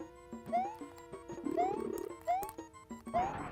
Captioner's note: silly video game noises; clicking